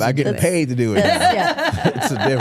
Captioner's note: Stephanie laughing